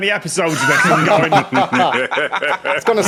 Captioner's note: guests laughing